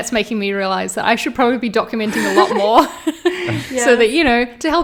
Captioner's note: laughs